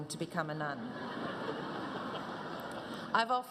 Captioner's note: audience laughs